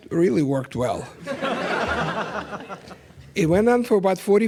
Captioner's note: laughter